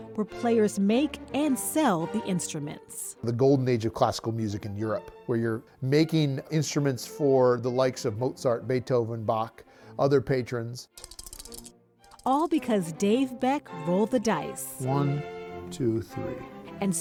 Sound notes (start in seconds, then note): 10.9 dice clacking